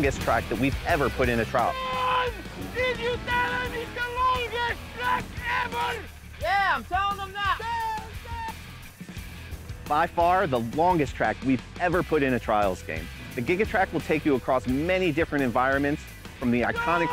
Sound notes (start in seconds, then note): 1.5 yelling; 5.9 yelling; 16.9 yelling